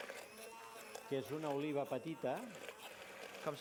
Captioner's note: non-english speech